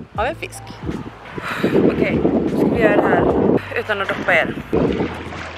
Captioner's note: exhales